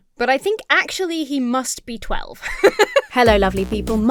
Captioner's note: laughs